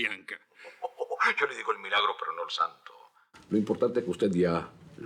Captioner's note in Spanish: Riendo